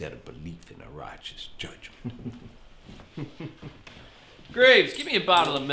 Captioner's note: Keaton chuckling